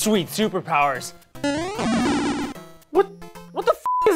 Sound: boing!

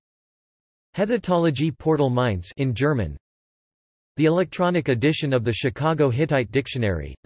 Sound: in German

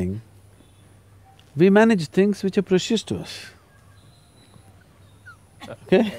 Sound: laughs

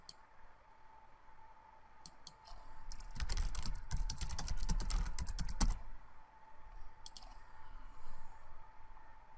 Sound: hear typing at keyboard

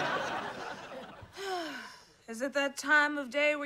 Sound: sighing

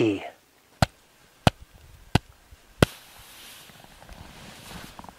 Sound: hand tapping

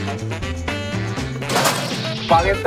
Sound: bang!

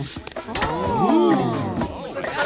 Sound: gasping

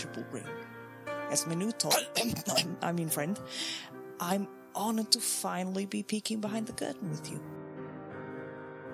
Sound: coughs

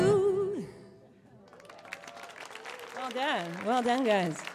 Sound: applause

